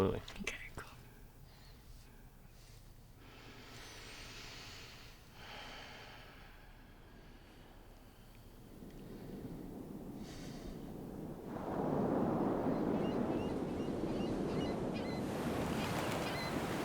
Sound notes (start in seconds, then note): 2.5 breathes deeply; 7.8 waves crashing; 11.7 sea gulls squawking